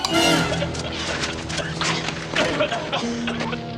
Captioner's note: choking and spluttering